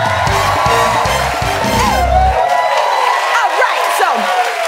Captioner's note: cheering and applause